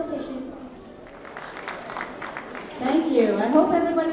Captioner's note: applause